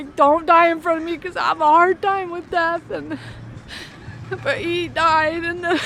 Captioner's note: crying